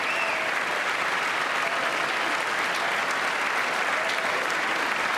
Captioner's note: applause